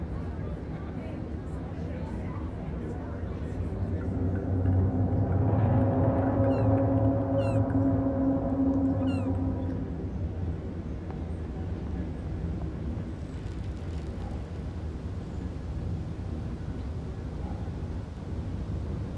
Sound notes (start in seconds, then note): 0.1 crowd chattering; 6.5 bird chirping